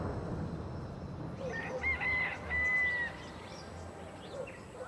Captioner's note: rooster crows